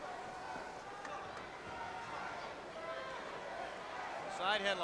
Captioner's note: crowd chattering